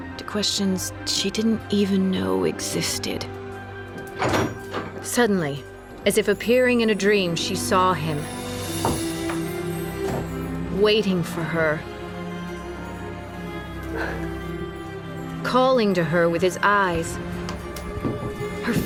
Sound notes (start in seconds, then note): 3.9 door opens; 13.9 annaline exhaling